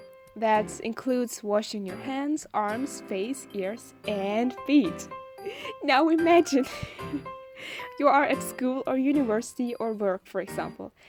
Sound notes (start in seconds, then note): 6.3 laughs